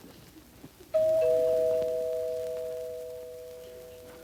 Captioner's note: doorbell rings